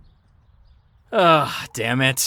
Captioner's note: sighs